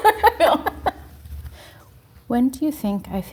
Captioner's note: both laughing